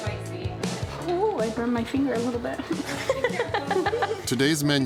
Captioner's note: laughs